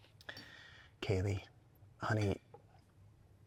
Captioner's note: inhales